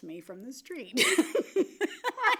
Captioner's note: laughs